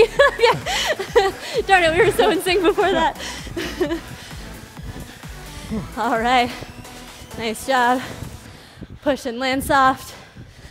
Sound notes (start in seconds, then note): 0.0 laughs; 3.3 upbeat music